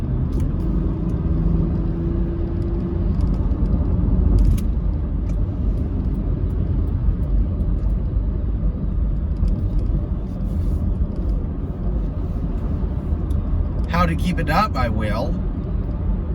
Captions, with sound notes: [car speeding] How to keep it up, I will.